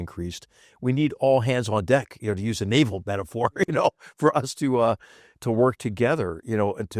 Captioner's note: laugh